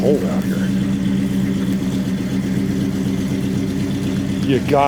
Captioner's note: engine roaring